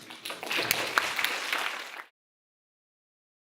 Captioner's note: applause